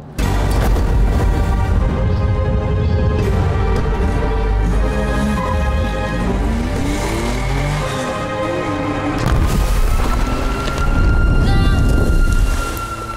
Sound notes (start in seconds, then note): 0.1 fire igniting; 5.0 engine revs; 9.5 sirens blaring